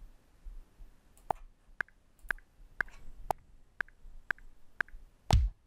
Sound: metronome clicking; kick drum thumping

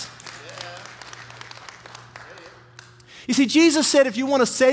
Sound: congregation applauding

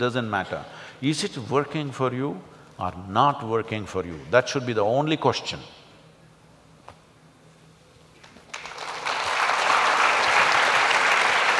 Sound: applause

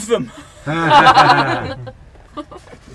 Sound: laughter

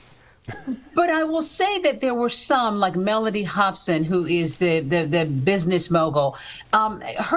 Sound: laughter

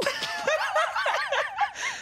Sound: laughs loudly

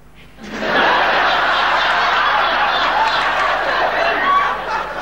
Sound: audience laughing

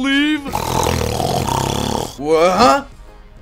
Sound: snooooooooooooooooooooooooooooooooooore

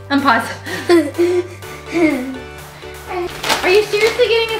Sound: laughing

